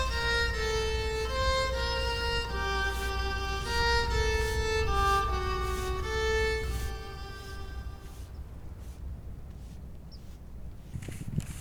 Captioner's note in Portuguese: som da vassoura, trilha sonora ao fundo